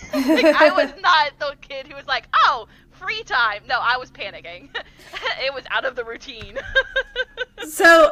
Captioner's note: laughter; laughter